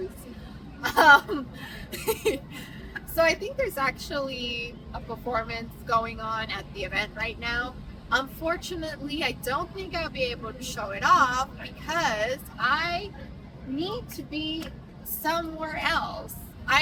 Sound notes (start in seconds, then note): 0.8 laughs